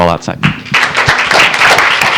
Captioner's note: applause